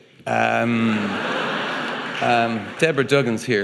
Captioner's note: audience laughing